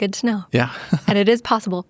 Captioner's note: laughs